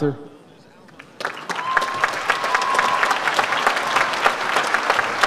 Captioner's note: audience applauds